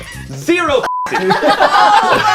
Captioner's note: beep; group laughs